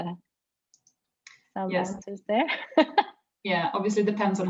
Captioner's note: chuckles